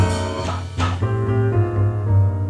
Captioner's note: mimicking drum beat; mellow piano music